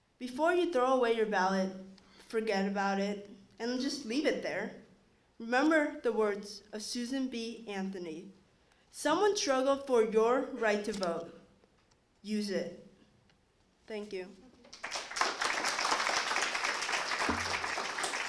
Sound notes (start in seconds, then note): 14.6 applause